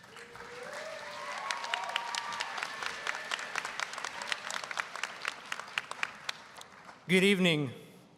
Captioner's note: applause